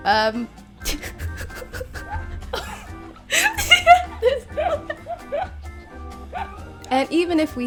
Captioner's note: all laughing